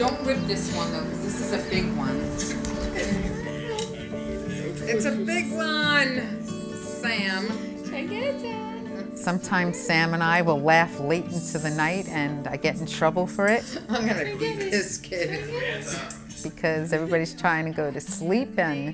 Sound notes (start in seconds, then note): 13.5 laughing